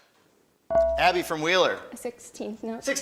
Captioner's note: buzzer chimes